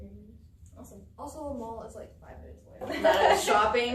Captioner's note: all laugh